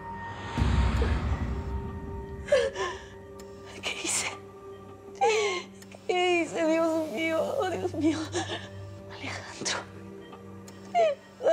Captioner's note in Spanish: Sollozos